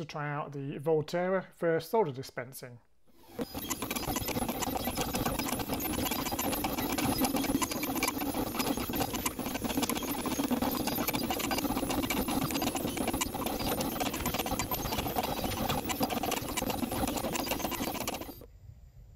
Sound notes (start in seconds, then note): 3.1 machine working